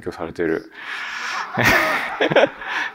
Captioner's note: laughs